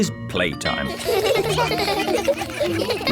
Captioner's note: all laugh